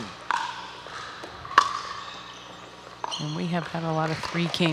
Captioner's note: ball bouncing